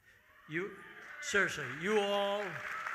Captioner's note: audience cheering